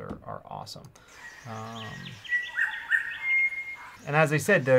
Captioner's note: birds chirp